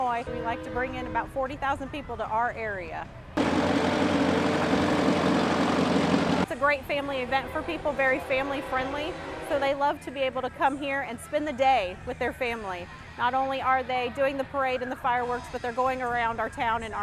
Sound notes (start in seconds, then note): 3.3 engine whirring